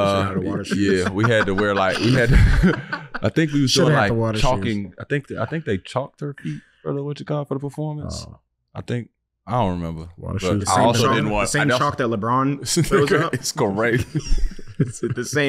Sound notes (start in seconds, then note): 0.0 laughing; 3.1 chuckles; 12.9 laughing